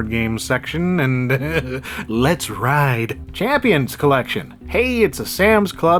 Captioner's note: chuckles